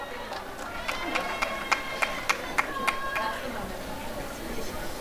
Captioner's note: applause and cheering